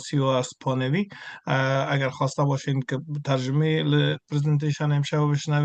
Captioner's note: interpreter speaking in Farsi continued